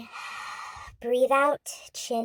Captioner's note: inhales